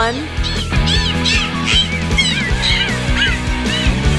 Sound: dolphin squeaking

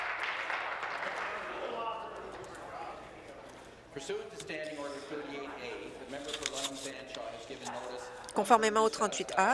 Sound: applause

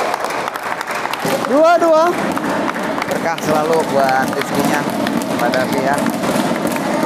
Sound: applause

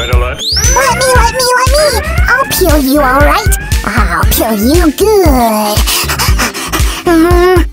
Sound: panting from the effort

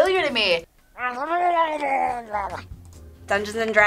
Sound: man gurgles

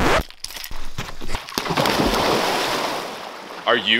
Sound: record scratch; loud splash

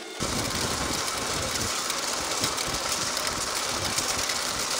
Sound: machine rumbling

